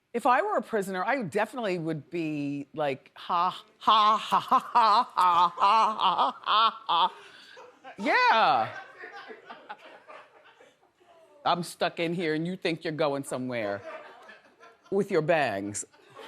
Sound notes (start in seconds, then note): 4.1 laughs demonically; 8.4 audience laughs